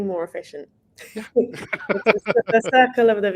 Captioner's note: laughing